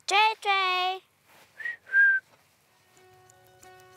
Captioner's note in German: Sie pfeift